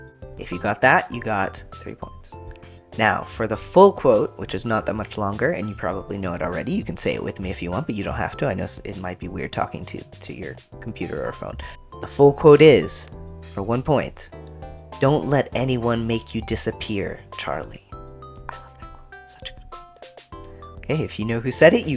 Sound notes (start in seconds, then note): 18.2 whispers